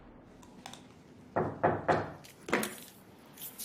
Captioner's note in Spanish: Toques en la puerta